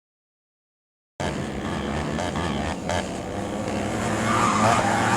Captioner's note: engines roaring